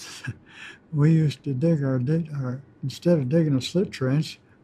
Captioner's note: chuckles